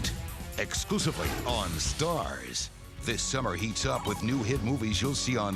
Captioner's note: none